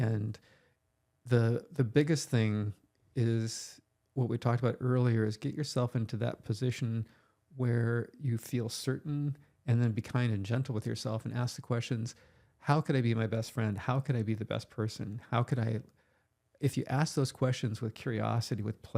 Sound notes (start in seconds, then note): none